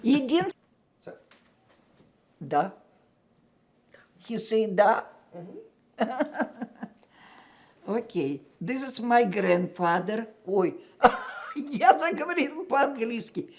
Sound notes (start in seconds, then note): 6.0 laughing